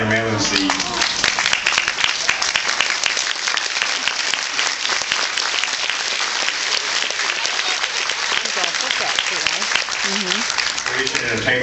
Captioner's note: applauds